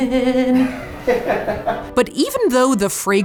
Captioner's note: laughs